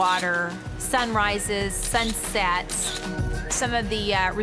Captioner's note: camera snapping